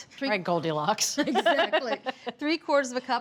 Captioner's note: both laugh